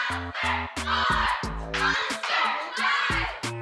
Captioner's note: chanting continues